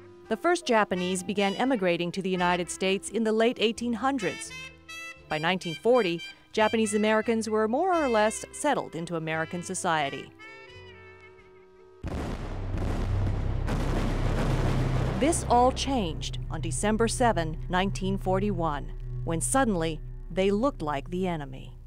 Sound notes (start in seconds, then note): 12.0 bomb exploding